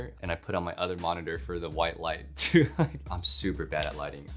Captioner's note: laughs